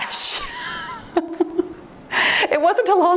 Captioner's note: laughing softly